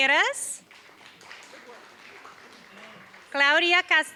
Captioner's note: applause